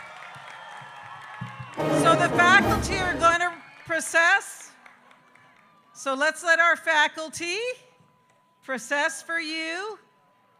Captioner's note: applause